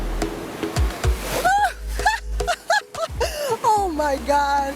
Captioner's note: laughs